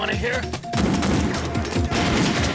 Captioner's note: gunfire